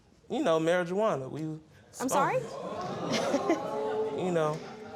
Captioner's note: audience exclaiming